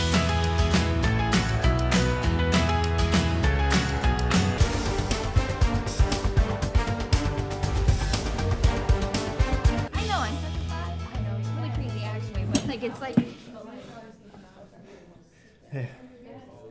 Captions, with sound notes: (upbeat music) (intense music) - I know, on chapter five, I know. It was really crazy. It's like-- (heavy breathing) - Hey.